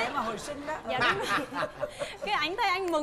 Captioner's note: laughing